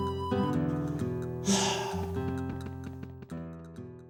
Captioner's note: LINK sighs